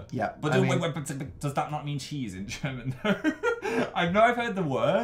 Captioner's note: laughs